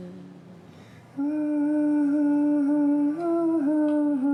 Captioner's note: humming